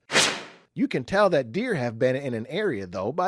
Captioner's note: swoosh